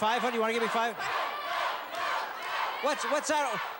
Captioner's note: cheers